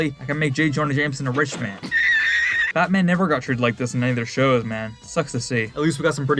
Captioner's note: laugh